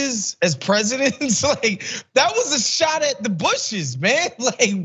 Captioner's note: laugh